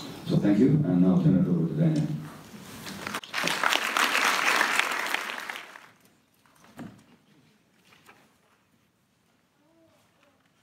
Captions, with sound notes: So thank you, and now I'll turn it over to Daniel. [audience applause]